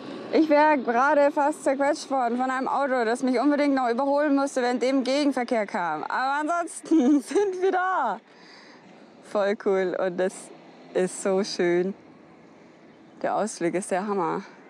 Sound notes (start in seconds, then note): 6.5 laughs